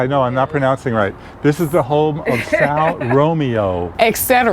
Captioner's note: laughing